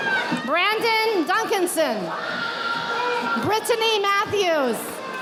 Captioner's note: audience applauding